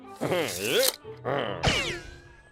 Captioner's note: chuckles; affirmative grunt